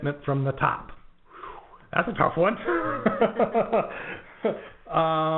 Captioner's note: laughs